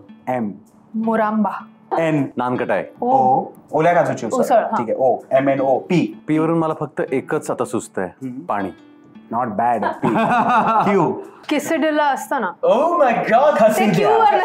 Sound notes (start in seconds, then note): 10.0 Adinath chuckles